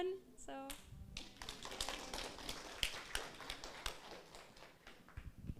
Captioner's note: audience applauds